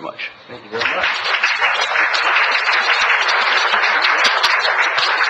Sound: crowd applauds

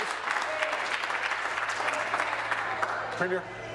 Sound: applause

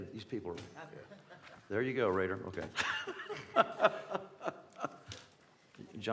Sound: laughter

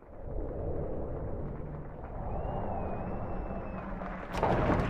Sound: whistles; applause

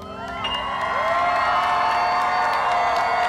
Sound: applause

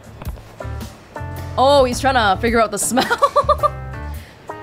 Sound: chuckles

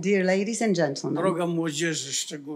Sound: foreign language

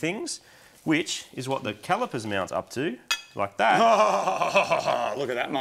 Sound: laughing triumphantly

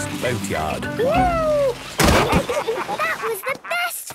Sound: bangs

